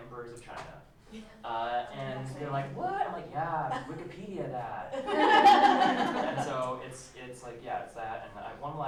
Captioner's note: laughter